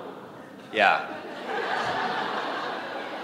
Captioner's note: laughter